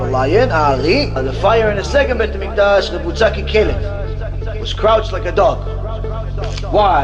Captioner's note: hebrew; hebrew